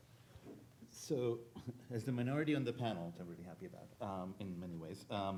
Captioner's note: speaking faintly